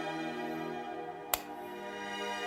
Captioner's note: light switch clicks